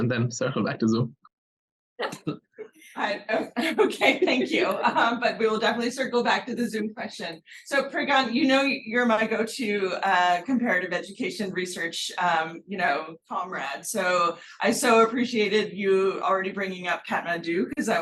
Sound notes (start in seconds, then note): 2.1 laughing